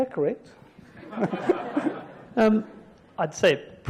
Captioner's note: audience laughs